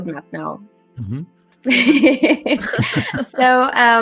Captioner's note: laughs